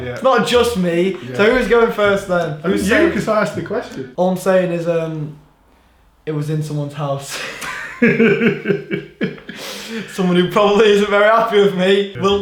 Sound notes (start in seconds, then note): 7.3 laughing